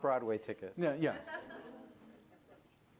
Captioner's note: laughter